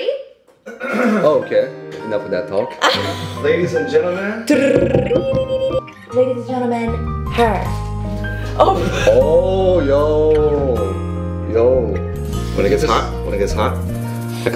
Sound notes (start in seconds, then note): 0.6 clearing throat; 2.8 laughs; 4.4 imitates drum rolls; 8.5 chuckles